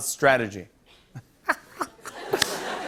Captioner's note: laughter